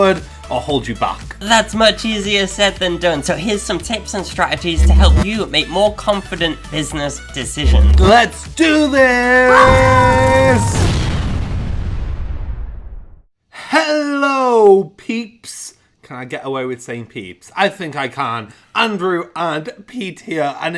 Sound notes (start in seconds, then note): 9.4 yells; 9.7 explosion booms